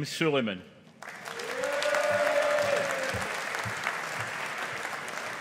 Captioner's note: audience applauding